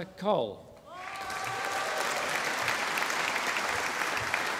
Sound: audience applauding

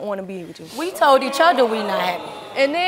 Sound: audience oohing

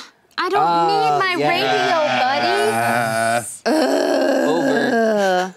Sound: groans

